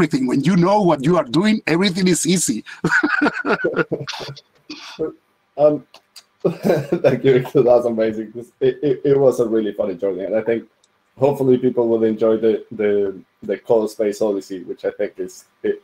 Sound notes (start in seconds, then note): 2.6 laughs; 6.4 laughs